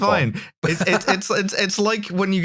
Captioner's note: laughter